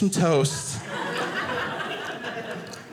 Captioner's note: audience laughing